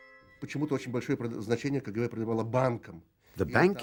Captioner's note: speaking Russian